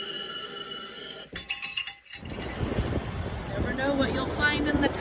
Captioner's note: air hisses; metal clanks rhythmically